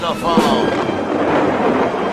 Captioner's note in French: Tonnerre